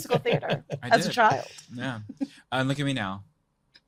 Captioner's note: group laughing